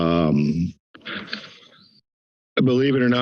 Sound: silence

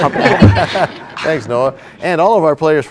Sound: laughter

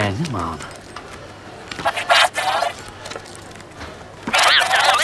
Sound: recording warbles

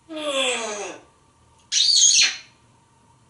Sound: smooch

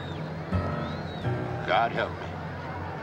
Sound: booing

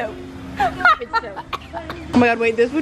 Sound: coughing and laughing

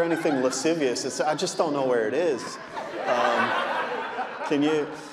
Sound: audience laughing

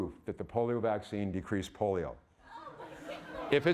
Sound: audience laughing

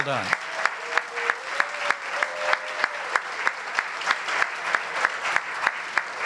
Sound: applause

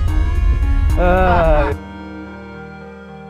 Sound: laughter

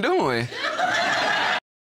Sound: audience laughs

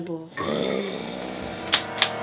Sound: growls

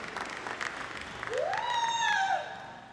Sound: applause

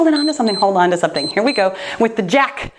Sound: timer beeps

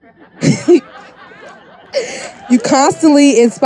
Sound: people laughing

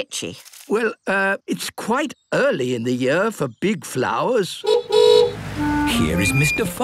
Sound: honking

